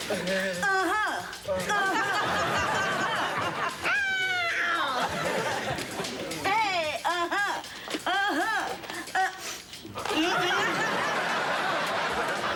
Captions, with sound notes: Uh-huh. Uh-huh. Uh-huh. Ow! Hey. Uh-huh. Uh-huh.. Uh-- [sniffs] Mm-mm.